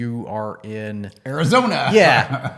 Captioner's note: laughs